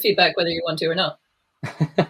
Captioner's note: laughs